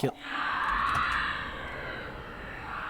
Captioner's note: horrifying eldritch scream in the distance